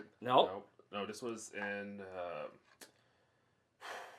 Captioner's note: exhales